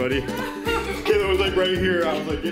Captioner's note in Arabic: يضحك